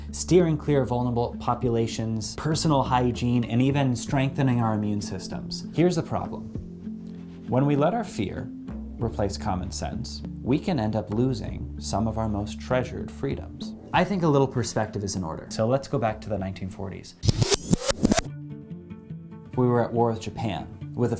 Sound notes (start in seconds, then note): 17.2 videotape zipping